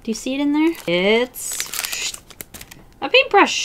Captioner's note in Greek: ήχος από φύσημα